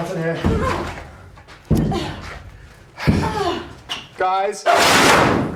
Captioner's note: Isabel grunting